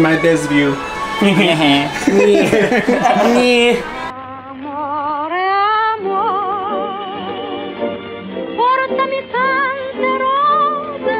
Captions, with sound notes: You're my best view! (both snicker) (foreign music continues)